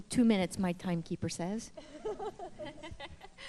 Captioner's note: laughter